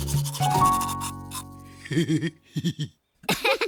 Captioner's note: laughing; Goofy chuckle